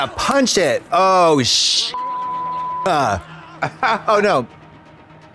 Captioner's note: beep